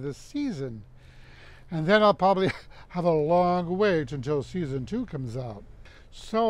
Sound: laughs

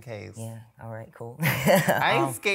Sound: laughs

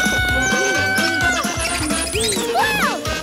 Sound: screaming; laughing

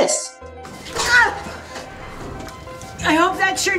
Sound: Lydia grunts

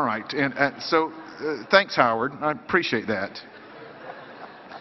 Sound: laughter

